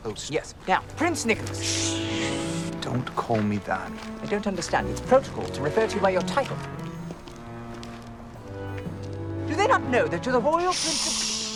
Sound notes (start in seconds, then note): 1.6 Nicolas hushes; 10.7 Nicolas hushes